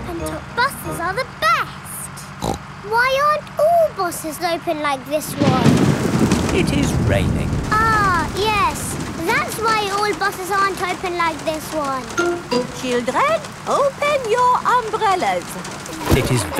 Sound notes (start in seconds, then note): 2.4 snorts; 5.2 thunder crashing